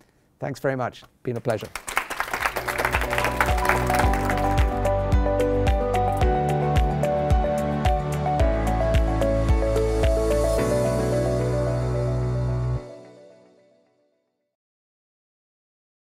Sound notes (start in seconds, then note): 1.3 applause